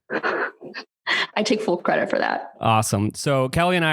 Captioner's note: laughs